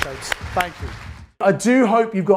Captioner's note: audience applauds